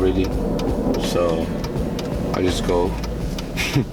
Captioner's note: chuckles